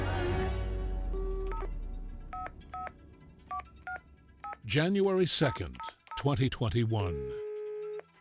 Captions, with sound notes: (phone dialing) January 2nd, 2021.